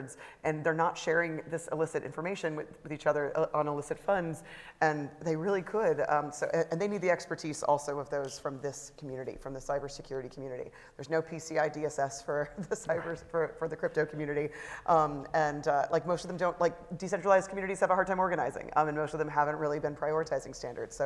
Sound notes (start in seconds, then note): 12.6 laughs